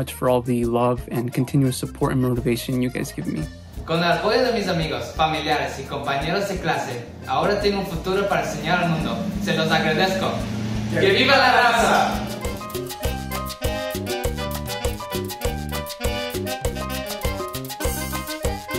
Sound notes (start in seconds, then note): 3.8 speaks in foreign language; 12.4 upbeat music